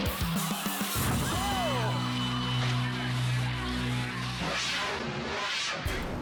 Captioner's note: crowd; veiled music